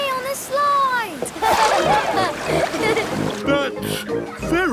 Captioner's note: laughing